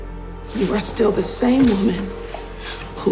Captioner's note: voiceover